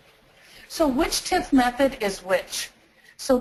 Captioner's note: voiceover